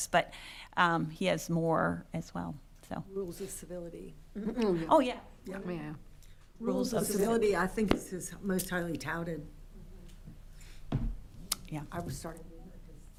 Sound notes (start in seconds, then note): 10.8 object thumps